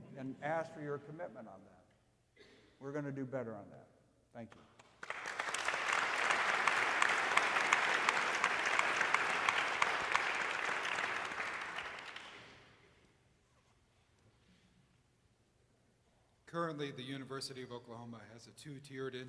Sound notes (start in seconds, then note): 4.8 audience applauding